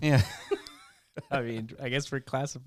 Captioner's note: laughing